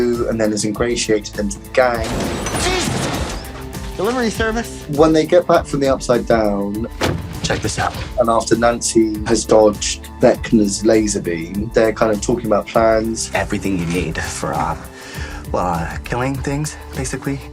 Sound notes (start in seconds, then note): 1.9 door banging; 6.9 Eddie slamming book down